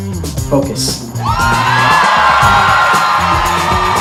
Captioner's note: crowd cheering